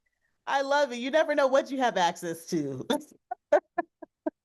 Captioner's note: laughs